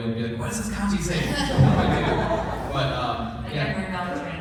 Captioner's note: laughter